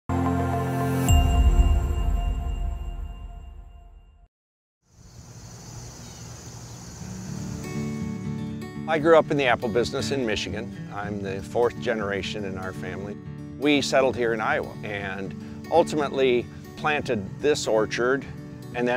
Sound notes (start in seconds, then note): 0.2 light upbeat music; 1.4 bell dinging; 5.0 birds chirping; 7.7 lighthearted guitar music begins